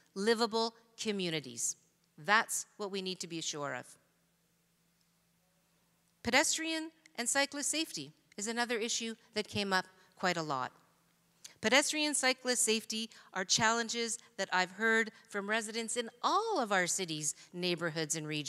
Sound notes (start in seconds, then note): none